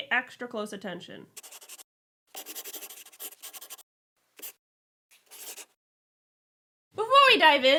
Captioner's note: the sound of a pen scratching